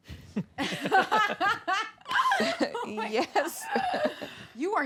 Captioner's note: laughter